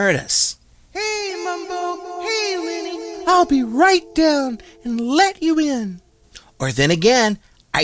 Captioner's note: calls down